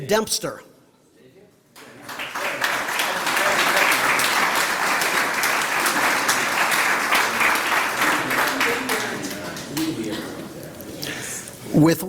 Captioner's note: applause